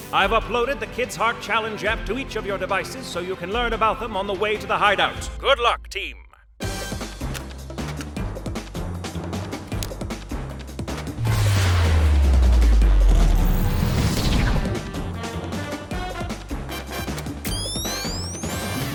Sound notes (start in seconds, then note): 6.6 dynamic music; 11.2 devices whooshing and whirring